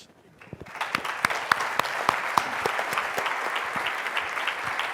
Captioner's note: clapping